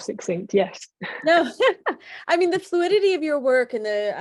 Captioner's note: laughing